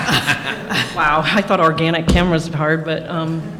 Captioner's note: laughter